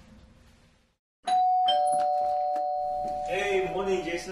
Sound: doorbell ringing

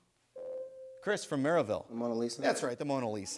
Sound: ding

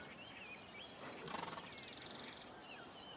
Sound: horse snorts

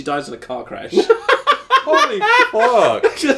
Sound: laughs

